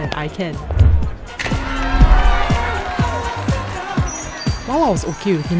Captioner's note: cheering